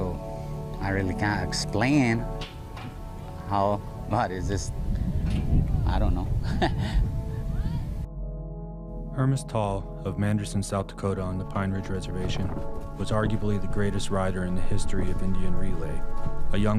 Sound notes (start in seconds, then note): 6.4 chuckling; 7.9 gentle wistful music